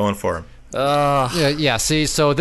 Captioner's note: pained groan